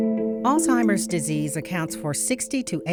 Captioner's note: voiceover